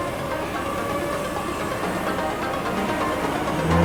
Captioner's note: drone flying